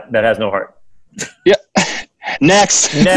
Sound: laughs

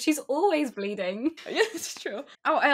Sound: laughing

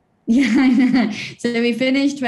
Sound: laughs

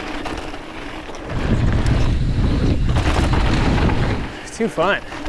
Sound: wind blows

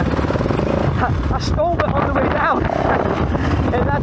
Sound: laughs

